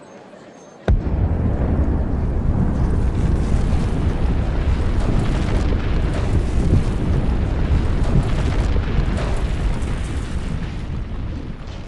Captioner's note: explosion